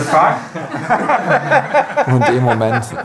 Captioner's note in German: Lachen